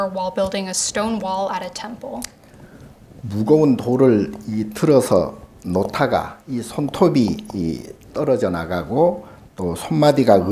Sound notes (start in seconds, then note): 3.1 speaking Korean